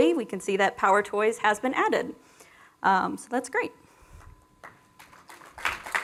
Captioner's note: applause